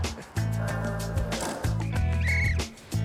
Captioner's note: door banging; whistle tweeting